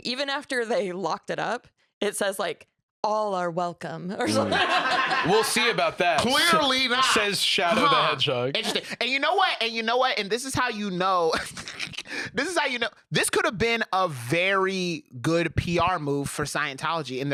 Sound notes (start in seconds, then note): 11.1 laughs